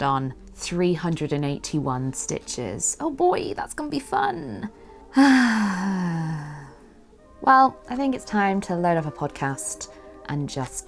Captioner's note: sighs